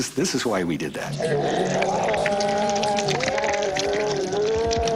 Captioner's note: groaning